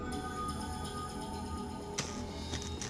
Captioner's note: zapping